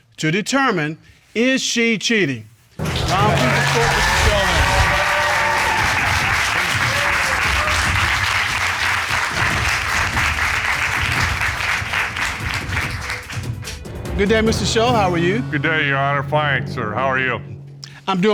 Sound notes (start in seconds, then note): 3.1 audience applauding